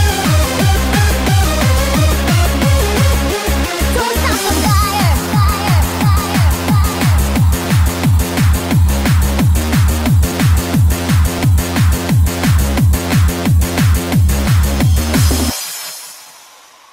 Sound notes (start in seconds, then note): 6.5 echo